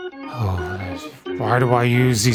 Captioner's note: low growl